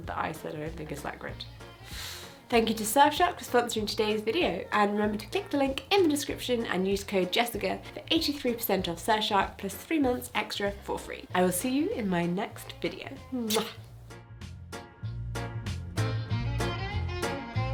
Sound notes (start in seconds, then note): 13.3 kisses; 14.2 light, whimsical music